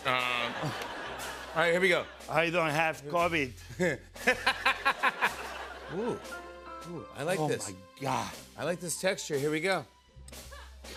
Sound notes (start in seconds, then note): 0.1 laughter; 1.2 normal voice; 4.2 laughter